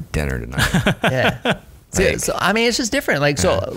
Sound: laughter

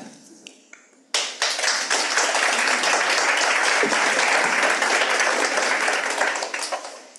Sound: audience applauds

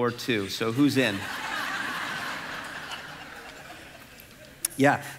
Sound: congregation laughing

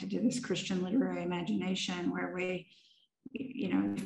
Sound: none

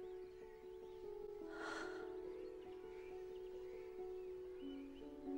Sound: soft gasp

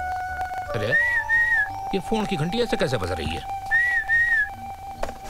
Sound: whistling

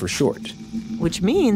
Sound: another whoosh

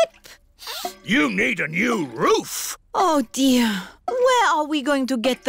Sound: sniffs

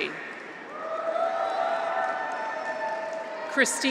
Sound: audience applauds; graduates cheer

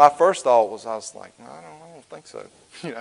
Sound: grumbles; chuckles

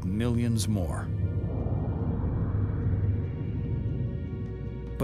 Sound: air whooshing

